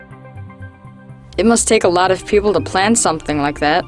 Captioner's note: voiceover